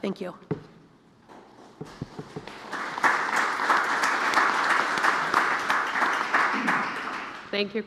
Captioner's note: applause